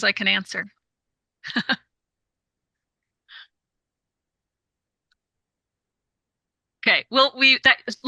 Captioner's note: laughs